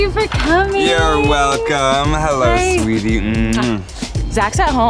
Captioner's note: smooches